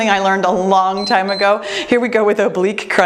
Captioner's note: timer beeps